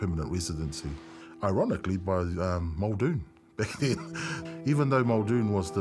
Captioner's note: chuckles